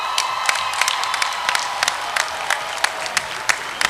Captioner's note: cheering and applause